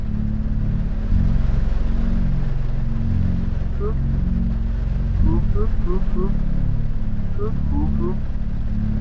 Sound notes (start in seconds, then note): 0.1 uneasy music; 4.9 text beeping